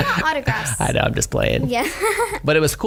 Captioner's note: giggles